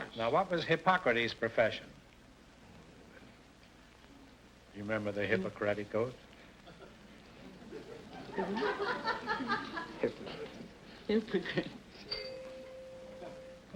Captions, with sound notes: - Now what was Hippocrates' profession? You remember the Hippocratic Oath? (whispering) (chime rings)